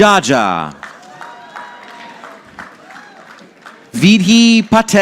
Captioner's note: audience applauding